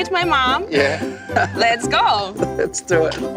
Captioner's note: laughs